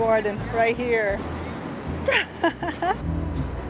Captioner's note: laughs